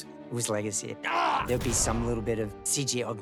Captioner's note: groans, grunts